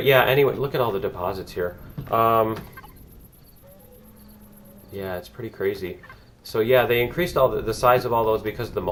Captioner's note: cricket chirps